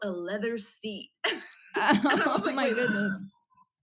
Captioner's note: laugh